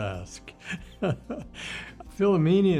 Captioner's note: laughs